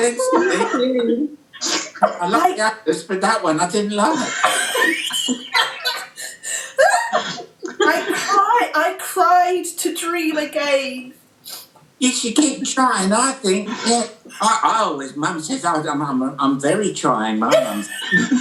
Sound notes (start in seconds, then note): 0.0 outburst of laughter; 4.1 group explodes into laughter; 17.4 laughing from the group